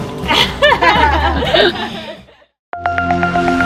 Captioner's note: laughing; futuristic music